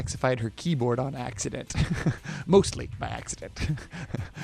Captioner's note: chuckles